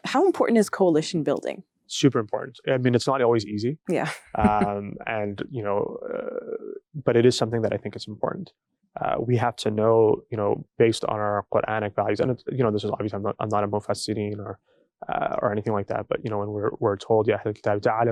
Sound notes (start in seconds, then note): 3.9 laughing; 12.7 speaking in foreign language